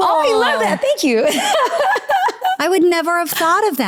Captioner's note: laughs